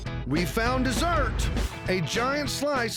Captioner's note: none